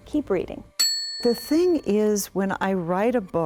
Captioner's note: bell dings